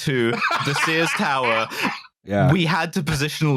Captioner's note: dying from laughing so hard